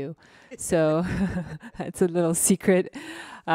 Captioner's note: laughs